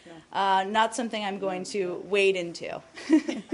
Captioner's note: laughter